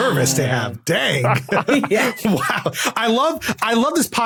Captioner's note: whispers; others laughing